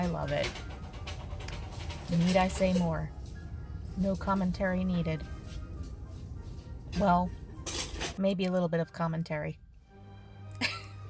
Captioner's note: laughs